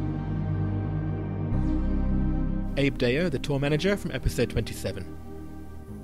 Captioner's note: voiceover